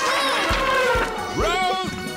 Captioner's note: elephant squeals